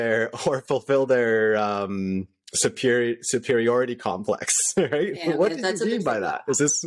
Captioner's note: laughter